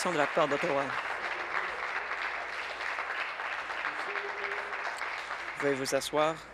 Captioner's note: applause